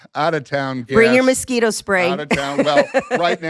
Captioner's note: chuckles